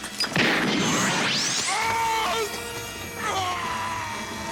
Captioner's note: screams